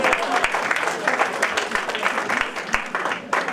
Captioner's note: applause and Cheering